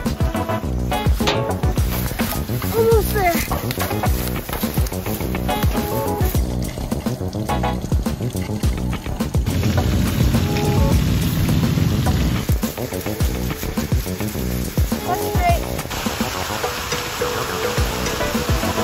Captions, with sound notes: Almost there. (upbeat music) (water spraying) Looks straight. (upbeat music)